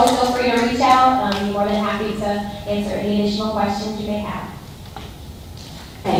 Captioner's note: applause